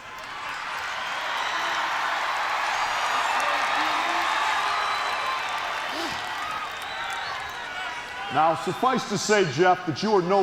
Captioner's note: crowd cheering